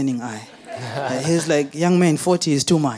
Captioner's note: audience laughing